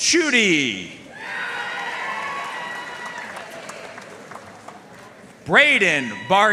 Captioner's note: audience cheering and applauding